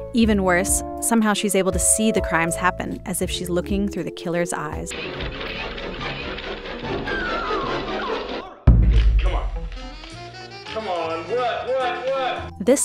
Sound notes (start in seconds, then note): 4.9 eerie screeches; 7.1 hysteric screams; 8.3 eerie boom; 9.7 seductive music